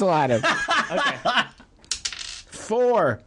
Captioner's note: more laughter and dice roll sounds